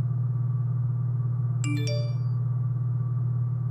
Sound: iPhone Notification

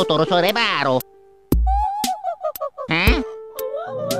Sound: creepy laughter

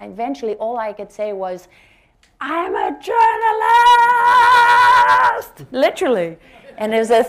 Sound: laughter

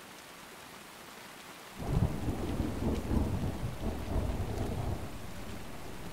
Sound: thunder

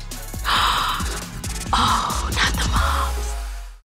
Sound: gasps

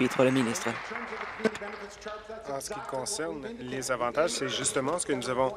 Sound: applause

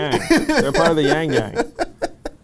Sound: laughs

